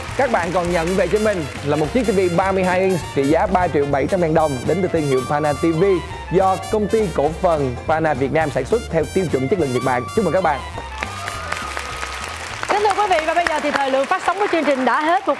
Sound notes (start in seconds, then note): 10.8 applause